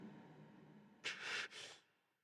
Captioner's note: breathes shakily